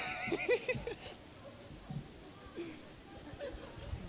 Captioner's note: laughter